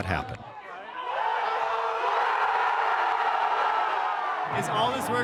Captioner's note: crowd cheers